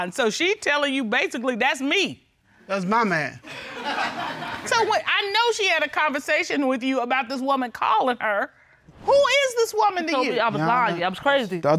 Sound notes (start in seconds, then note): 3.5 audience laughing